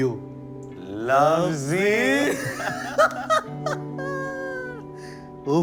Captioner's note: laughter